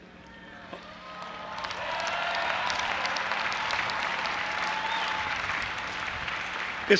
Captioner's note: audience applauding and cheering